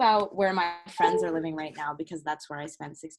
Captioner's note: computer notification rings